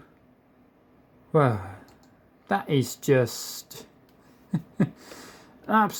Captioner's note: chuckles